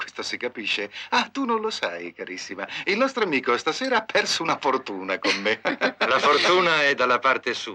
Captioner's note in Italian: risate